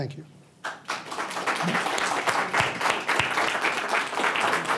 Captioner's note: gathering clapping